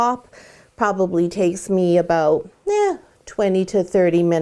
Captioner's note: sighs